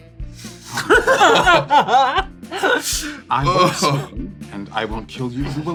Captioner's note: laughter